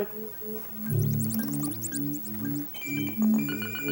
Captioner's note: beeping